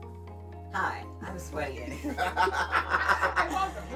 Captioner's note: all laughing